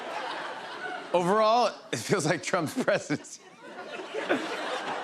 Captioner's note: laughter; laughs